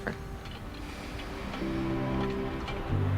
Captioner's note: sighs